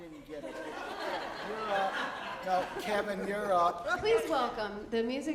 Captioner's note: audience laughing